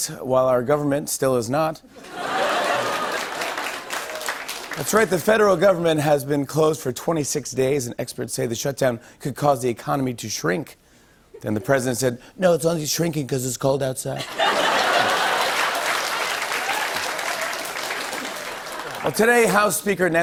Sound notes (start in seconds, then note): 14.1 laughter